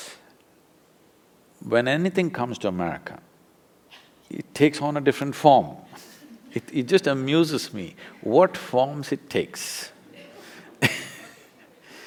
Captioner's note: laughs